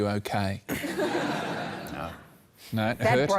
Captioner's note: laughter